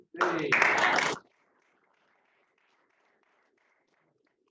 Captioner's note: applause